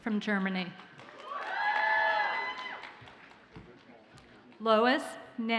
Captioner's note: audience cheers and applauds